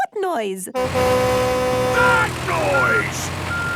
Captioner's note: tractor noise; screaming